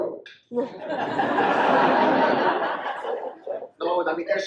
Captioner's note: audience laughs